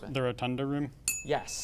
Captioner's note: ding sound